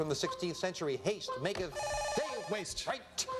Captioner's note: buzzer